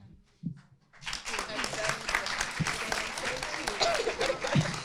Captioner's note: audience applauding